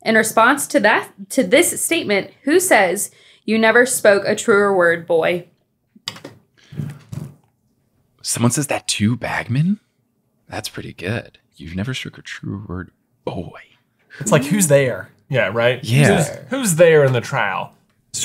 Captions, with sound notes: In response to that, to this statement, who says, "You never spoke a truer word, boy?" (buttons clicking) - Someone says that to Bagman? That's pretty good, "You've never spoke a truer word, boy." - That's like, who's there? - Yeah, right? - Yeah. - Who's there in the trial?